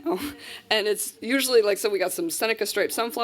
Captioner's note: laughs